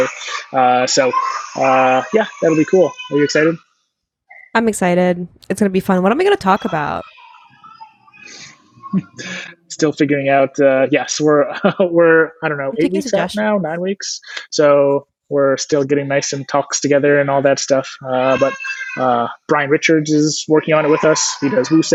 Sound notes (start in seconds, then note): 8.6 chuckles